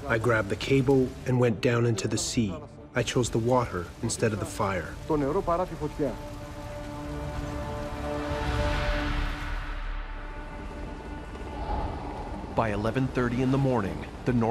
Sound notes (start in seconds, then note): 5.3 speaks in foreign language; 7.8 eerie music; 10.9 airplane engine roaring